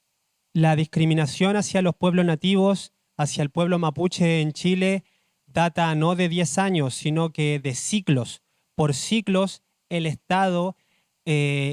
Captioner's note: speaks Spanish